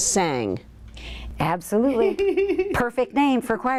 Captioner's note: laughs